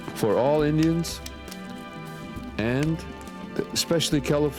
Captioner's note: none